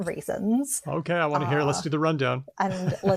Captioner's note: laughs